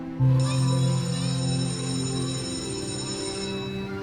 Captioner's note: school bell rings